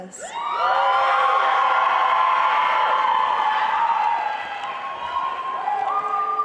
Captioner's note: applause